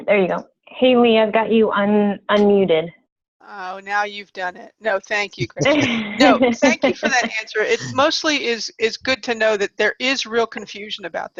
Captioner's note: laughs